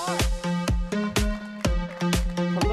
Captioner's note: applause